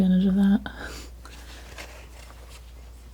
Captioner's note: scratching